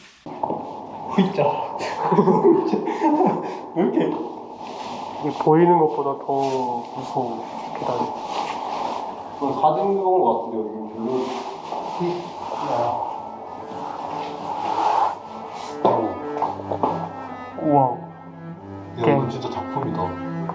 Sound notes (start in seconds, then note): 1.1 breath